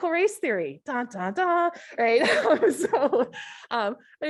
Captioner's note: laughs